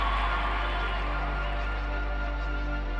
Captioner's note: audience cheering